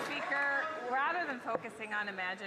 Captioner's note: some Applause